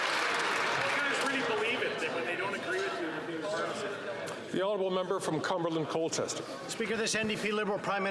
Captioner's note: some Applause